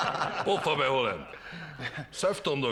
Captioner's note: laughter